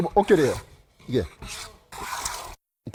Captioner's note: planing sound